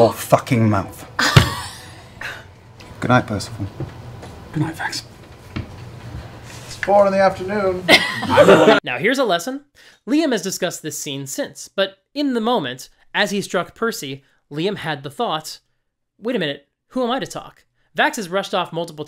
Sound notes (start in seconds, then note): 7.8 laughter